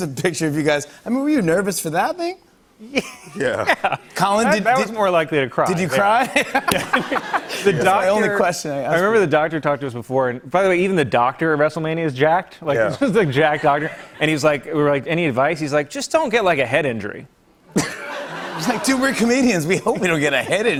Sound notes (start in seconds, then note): 6.0 laughter; 17.7 laughter